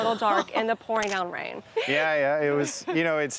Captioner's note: laughs